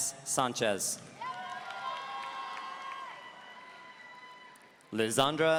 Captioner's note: audience cheering